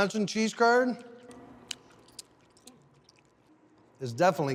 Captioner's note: chewing squeakily